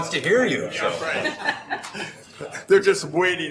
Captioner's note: laughing